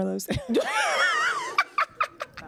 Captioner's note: laughs loudly